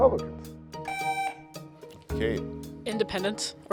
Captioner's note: buzzer sounding